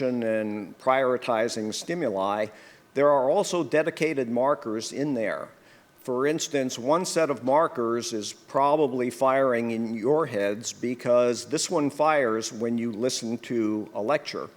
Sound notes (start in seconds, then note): none